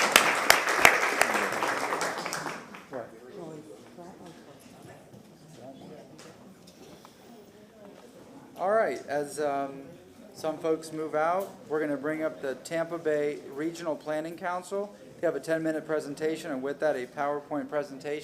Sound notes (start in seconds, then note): 3.2 applause